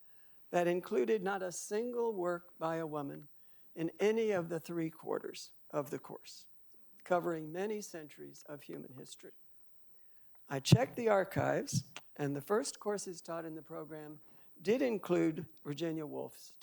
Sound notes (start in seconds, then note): none